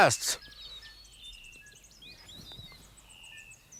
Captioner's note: birds twitter